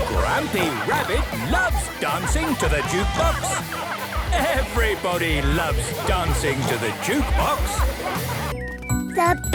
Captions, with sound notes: - (shouting) Grampy Rabbit loves dancing to the jukebox. Everybody loves dancing to the jukebox!